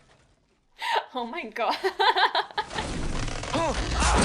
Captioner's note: laughs